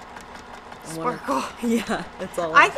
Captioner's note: exclaims